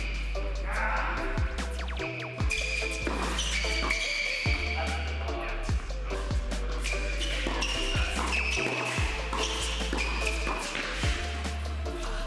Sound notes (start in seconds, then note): 0.6 groans; 2.0 shoes squeak; 6.6 upbeat music; 8.0 shoes squeak